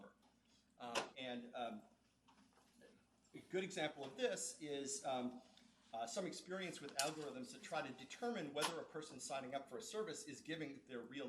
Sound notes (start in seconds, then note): none